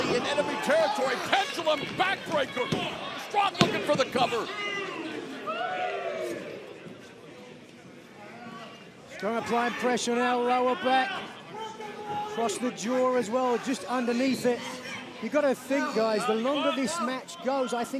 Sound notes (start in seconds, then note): 5.8 crowd chatter